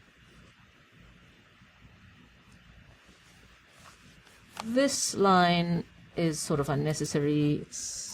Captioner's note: pause